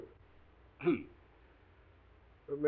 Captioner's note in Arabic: سعال واتسون